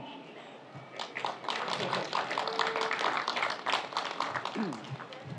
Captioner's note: audience applauds